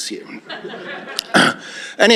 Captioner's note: laughter